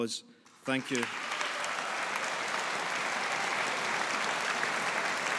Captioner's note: audience applauding